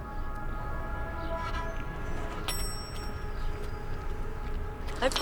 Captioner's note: bell dings